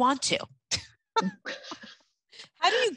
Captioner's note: both laugh